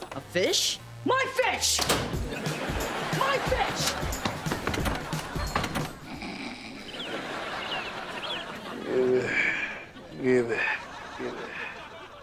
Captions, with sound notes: - A fish? - My fish! My fish! [snoring] [groaning] Gibby, Gibby, Gibby...